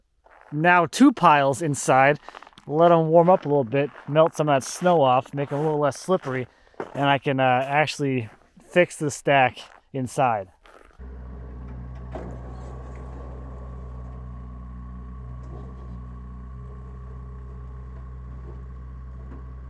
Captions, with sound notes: now two piles inside, let 'em warm up a little bit, melt some of that snow off, make it a little less slippery, and I can actually fix the stack inside. (engine purring) (wood knocking)